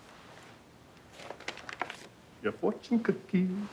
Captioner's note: bag crinkling